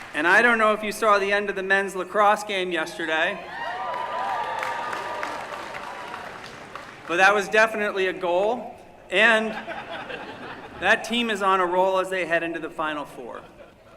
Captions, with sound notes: And I don't know if you saw the end of the men's lacrosse game yesterday. [CHEERING] But that was definitely a goal. And that team is on a roll as they head into the final four.